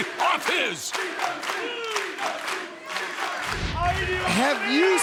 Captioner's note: audience chanting; audience clapping